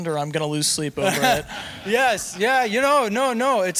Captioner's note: audience laughing